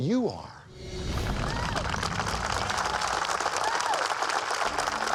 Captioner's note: crowd applauding